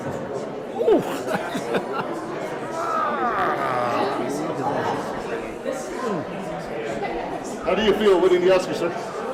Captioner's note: laugh